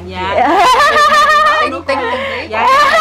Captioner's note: haha